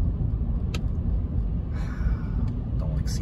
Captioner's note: sigh